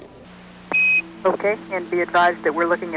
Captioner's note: beeps